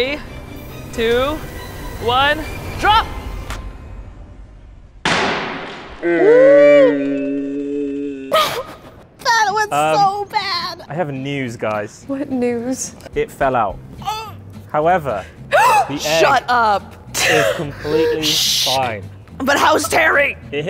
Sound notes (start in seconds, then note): 5.0 crate slams; 6.0 all exclaiming; 15.2 gasps